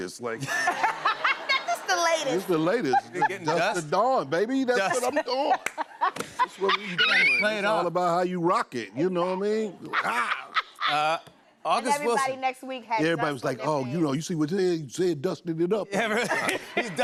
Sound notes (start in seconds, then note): 0.4 laughter; 4.9 laughter